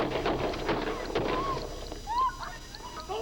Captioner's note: gunfire banging; driver screaming; gunfire banging